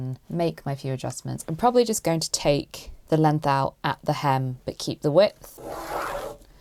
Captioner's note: pencil scratching